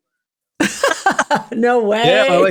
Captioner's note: laughing